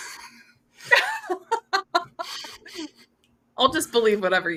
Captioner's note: laughter